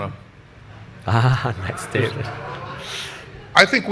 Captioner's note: audience laughs